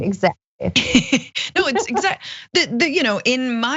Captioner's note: laugh